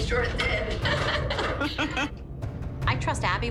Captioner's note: laughter